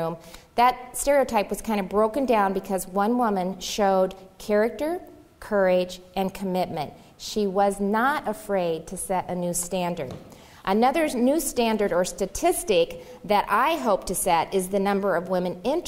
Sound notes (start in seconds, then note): none